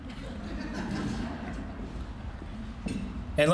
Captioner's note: sparse laughter